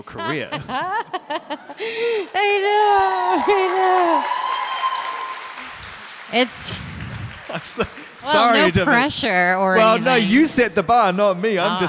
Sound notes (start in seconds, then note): 0.0 laughter; 1.6 applause